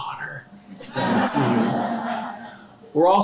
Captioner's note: laughter